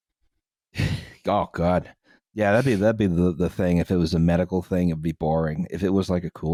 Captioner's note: laughs